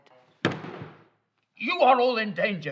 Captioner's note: professor's hand slams